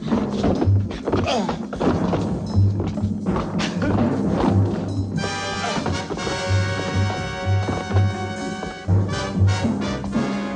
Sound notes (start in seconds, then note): 1.1 moaning; 5.6 thudding